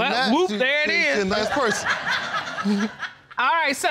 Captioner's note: audience laughs